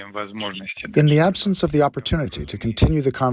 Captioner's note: through translator